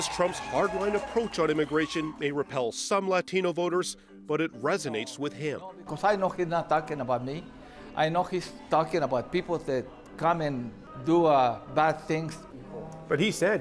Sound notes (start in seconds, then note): 2.8 cheers and Applause